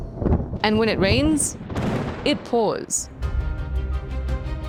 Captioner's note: thunder rumbles; energetic music